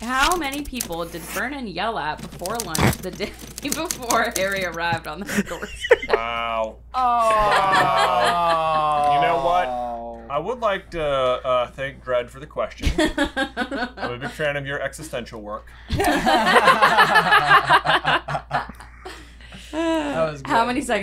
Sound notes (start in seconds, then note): 15.9 laughter